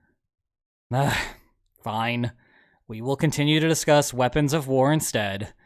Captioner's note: sigh